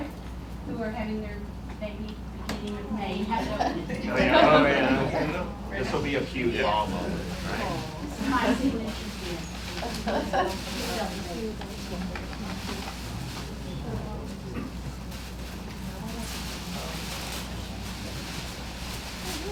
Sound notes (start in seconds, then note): 3.3 laughter; 8.2 rustling